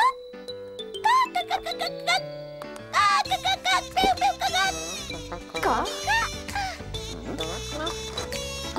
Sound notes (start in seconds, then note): 3.3 clucks excitedly